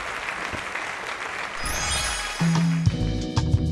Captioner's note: applause; magic wand swooshes